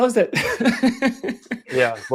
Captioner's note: laughs